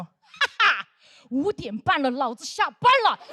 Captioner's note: laughing